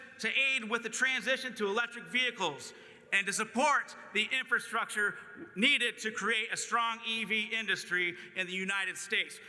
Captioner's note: none